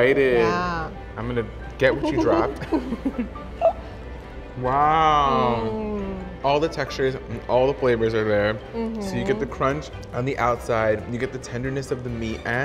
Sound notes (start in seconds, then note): 1.9 laughs